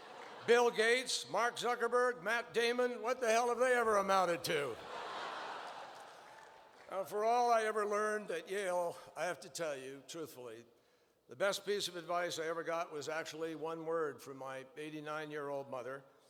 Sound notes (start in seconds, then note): 4.8 laughter